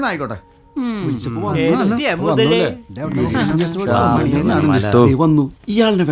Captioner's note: indistinct chatters